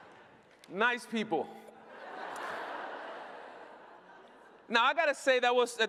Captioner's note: laughter